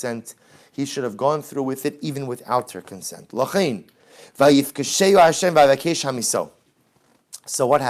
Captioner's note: Hebrew